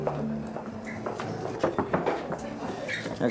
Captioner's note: knocking on door